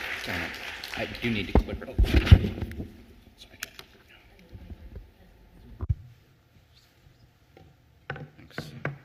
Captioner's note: applause